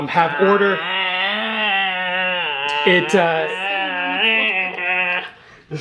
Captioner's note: exclaiming